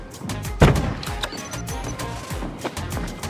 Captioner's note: door beeps